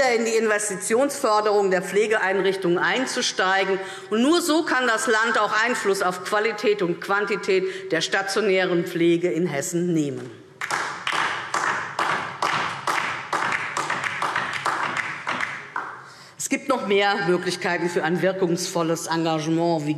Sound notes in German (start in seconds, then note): 10.6 Beifall DIE LINKE